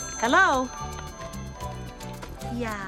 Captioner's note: ringing